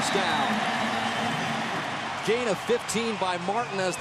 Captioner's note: cheering